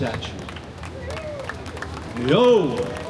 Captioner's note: applause